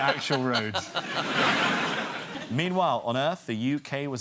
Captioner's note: audience laughter